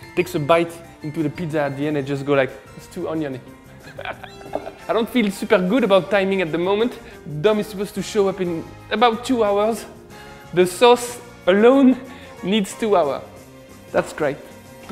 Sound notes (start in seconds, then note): 3.7 laughs